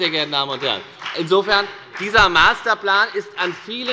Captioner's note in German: Beifall bei der FDP